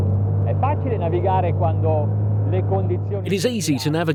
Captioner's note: speaking in foreign language